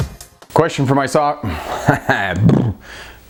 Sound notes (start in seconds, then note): 1.5 sticking out tongue & making funny noise